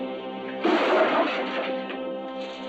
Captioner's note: window breaking